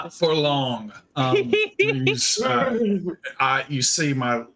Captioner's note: Deborah laughs